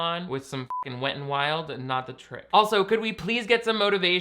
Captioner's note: beep